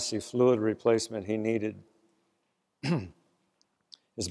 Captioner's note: cough